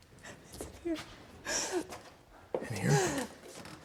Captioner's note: sobbing